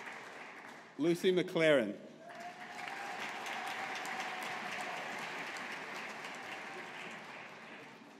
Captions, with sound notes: Lucy McLaren. (AUDIENCE APPLAUDING)